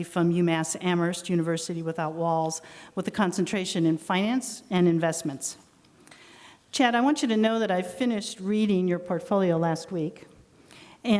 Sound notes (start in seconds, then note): none